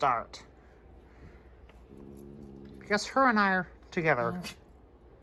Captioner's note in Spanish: gruñe